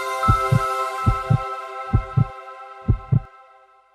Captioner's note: heart thumping